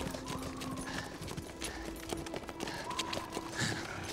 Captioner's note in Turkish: Hızlı nefes alıp veriyor